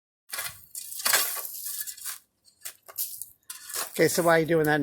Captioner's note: shovel clinking